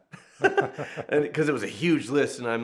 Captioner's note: laughing